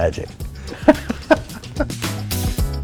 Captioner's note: laugh